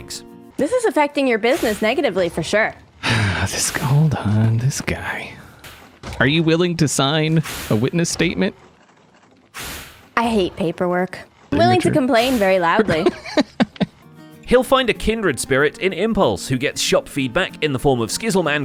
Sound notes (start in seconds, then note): 3.0 sighs; 4.2 muttering; 12.4 laughs